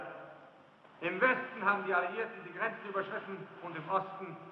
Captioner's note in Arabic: الصوت المنطوق باللغة الألمانية